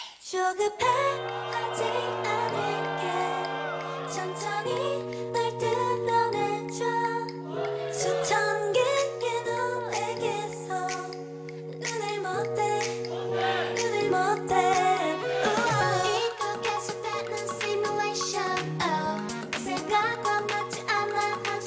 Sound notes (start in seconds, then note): 7.5 fanchant; 13.1 fanchant